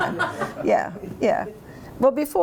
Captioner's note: laughter